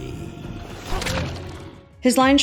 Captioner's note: stab, thunk